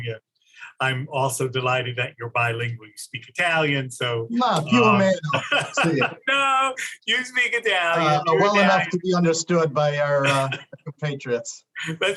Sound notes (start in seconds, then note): 5.6 in Italian; 7.0 laughs